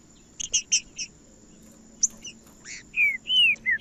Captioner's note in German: trinca ferro cantando